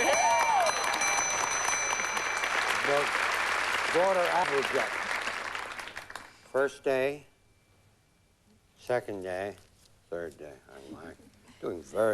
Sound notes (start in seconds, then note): 0.0 applause